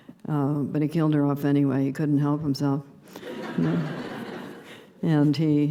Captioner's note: laughter